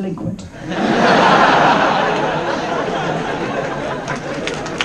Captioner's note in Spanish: Risas